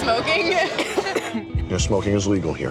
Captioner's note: patron coughs